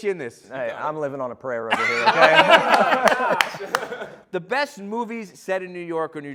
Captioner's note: laughter